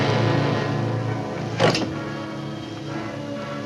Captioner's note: dramatic tone; scissors clatter down; dramatic music